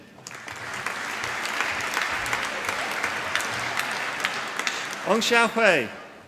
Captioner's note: applause